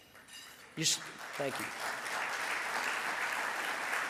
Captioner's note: audience applause